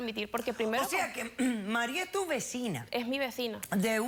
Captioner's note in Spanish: carraspea